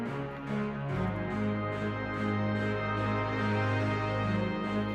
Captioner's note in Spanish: Música – Aplausos